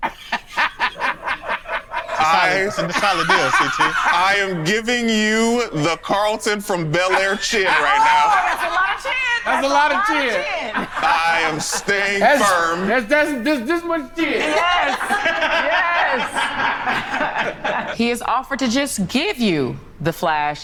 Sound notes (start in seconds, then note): 0.2 laughs; 10.7 group laughs; 16.5 group laughs